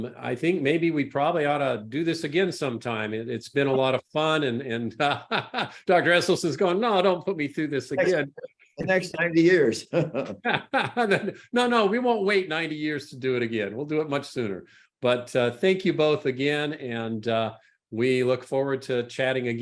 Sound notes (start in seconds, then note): 8.8 laughs